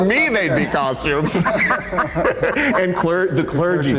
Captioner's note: all laughing